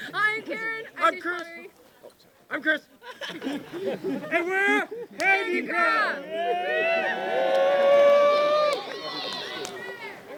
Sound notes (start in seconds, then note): 5.2 cheering